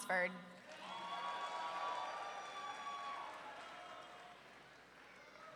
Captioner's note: audience cheering